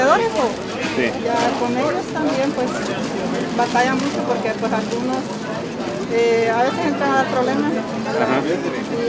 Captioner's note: in Spanish